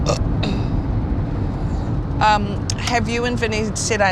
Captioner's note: burp